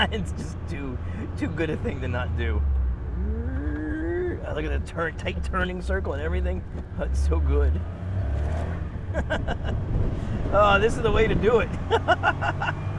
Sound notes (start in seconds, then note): 9.0 satisfied laughter